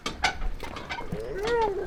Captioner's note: bolt squeaking; man howling